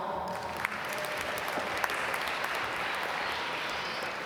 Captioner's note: applause